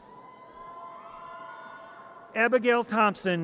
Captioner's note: audience cheers